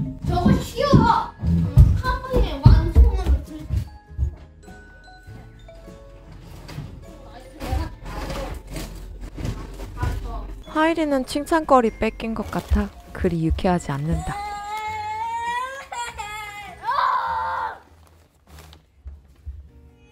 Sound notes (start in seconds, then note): 14.1 pretends to cry